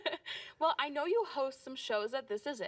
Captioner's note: chuckling